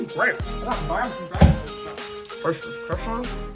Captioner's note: mumbling with mouth full of candy